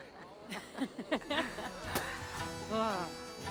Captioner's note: laughs